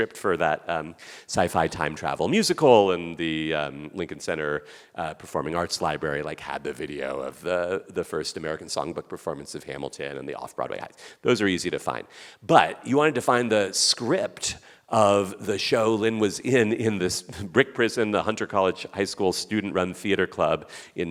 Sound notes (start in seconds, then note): none